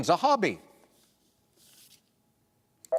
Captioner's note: beep